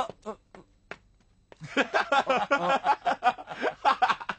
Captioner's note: laughter